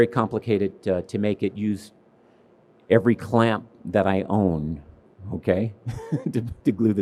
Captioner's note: laughs